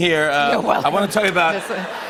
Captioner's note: laughter